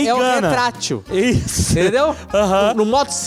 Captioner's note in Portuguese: risos